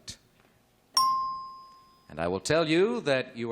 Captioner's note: ding